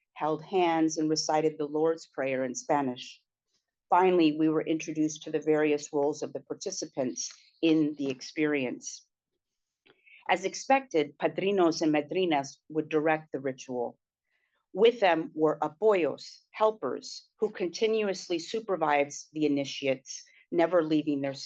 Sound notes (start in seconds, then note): 15.7 spanish